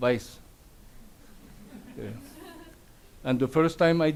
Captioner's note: audience laughs